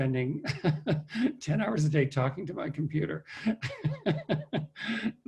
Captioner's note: laughs; laughs